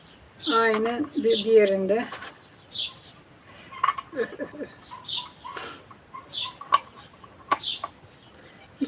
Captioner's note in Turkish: kahkaha